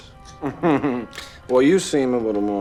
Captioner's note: giggling